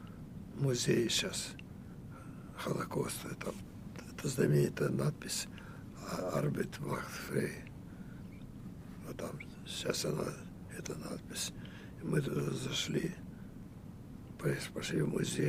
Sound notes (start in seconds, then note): 6.5 german